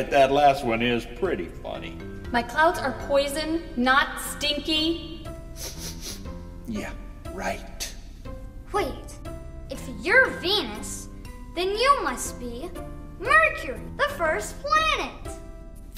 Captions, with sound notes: that last one is pretty funny. - My clouds are poison, not stinky. - (sniffs) Yeah, right. - Wait, if you're Venus then you must be Mercury, the first planet!